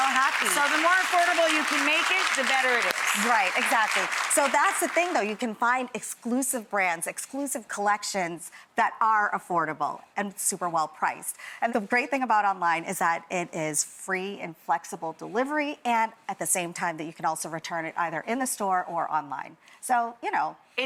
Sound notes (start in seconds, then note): 0.0 audience clapping